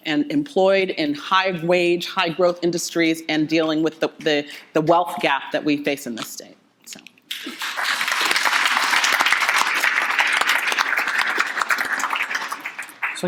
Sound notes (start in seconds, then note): 7.3 clapping